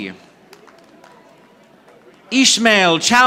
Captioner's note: audience applauding